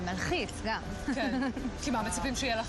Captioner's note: giggles